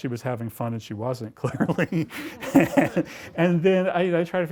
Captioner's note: laughs